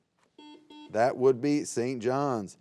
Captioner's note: buzzer beeps